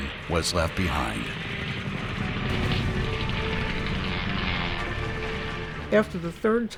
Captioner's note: airplane engines roaring; bombs blasting